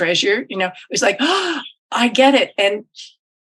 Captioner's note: gasps